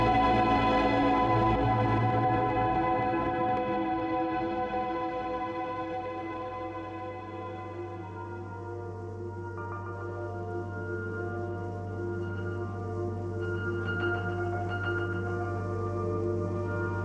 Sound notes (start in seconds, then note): 7.4 ambient music; 7.4 white noise